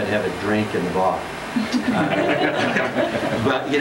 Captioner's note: laughter